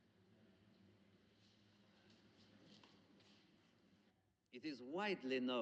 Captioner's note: none